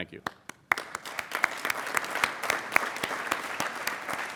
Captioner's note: applauding